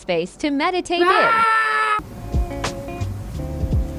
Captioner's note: angry growl